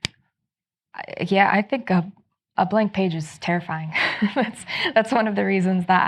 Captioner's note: chuckles